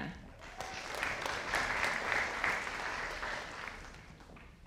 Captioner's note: audience applauding